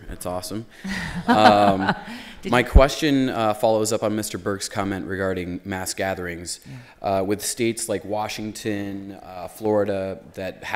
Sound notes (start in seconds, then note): 0.9 laughter